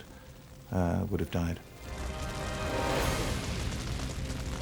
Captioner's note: fire roaring